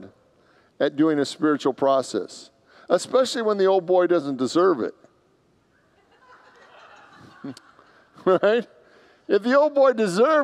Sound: congregants laugh

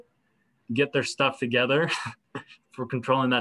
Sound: laughter

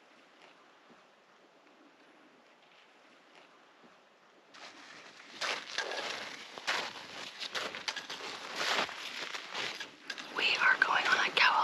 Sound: snow crunches; whispering

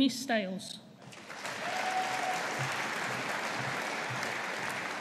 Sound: audience applauding

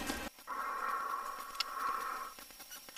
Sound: breathing

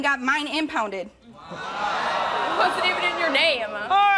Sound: audience jeering

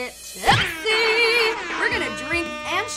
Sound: party horns

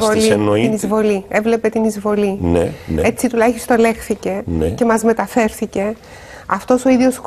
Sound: Turkish

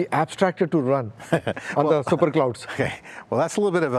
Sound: laughs

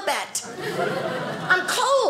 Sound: audience laughing

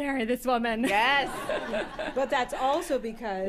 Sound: chuckles

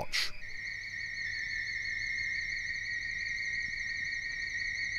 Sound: ominous high pitched buzzing

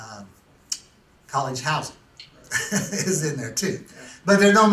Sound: laughs

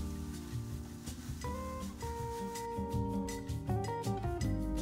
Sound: yerva mate tussling

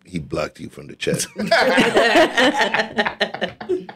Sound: laughing

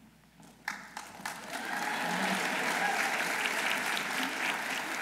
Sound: audience applauding

